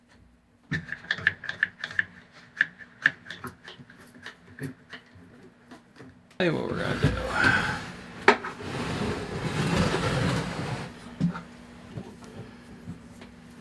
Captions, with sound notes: (mumbling to self again) Tell you what what we're going to do.